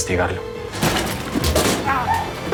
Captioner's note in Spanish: Portazo